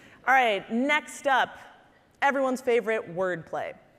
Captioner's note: none